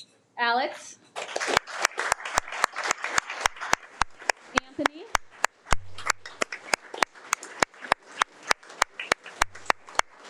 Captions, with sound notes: Alex (audience applauding) Anthony. (audience applauding)